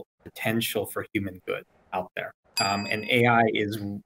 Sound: bell dings

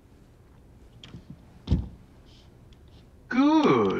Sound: wallet thudding

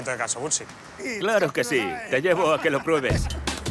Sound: laughing

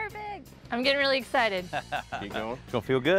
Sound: chuckles

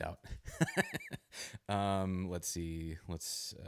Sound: laughs

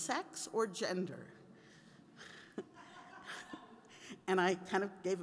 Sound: laughing

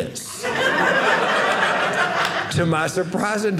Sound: audience laughing

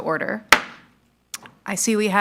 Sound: gavel strikes

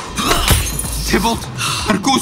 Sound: glass breaking

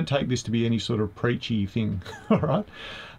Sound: laughs

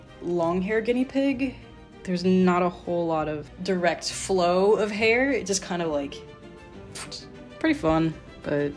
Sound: fwoosh

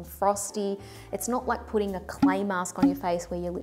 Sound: popping

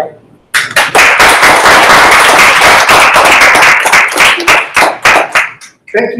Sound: applause

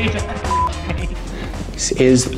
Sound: beep

